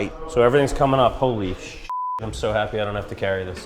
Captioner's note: beep